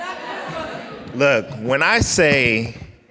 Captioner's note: crowd